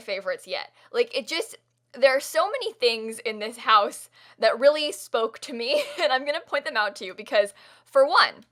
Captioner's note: kinda laughs